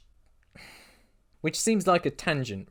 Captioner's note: exhale